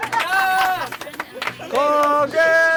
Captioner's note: God of Crucian Carps laughing widely